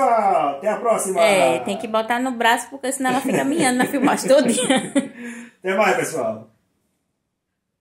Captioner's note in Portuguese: risos